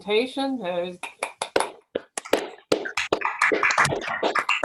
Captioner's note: applause